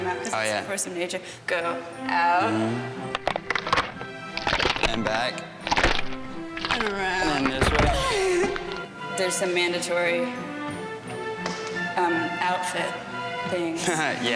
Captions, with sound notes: because it's a force of nature. Go out. (cartoonish back cracking) - And back. - And around. - Hold on there, too much. (laughing) There's some mandatory outfit things.